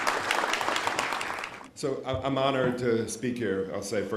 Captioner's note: applause